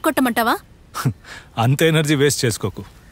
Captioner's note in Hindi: हंसते हुए